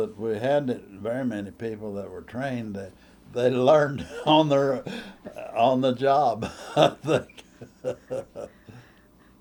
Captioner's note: laughs